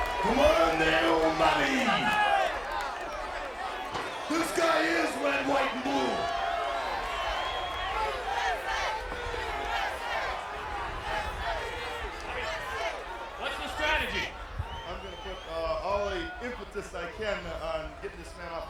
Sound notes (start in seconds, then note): 0.0 applause; 7.0 applause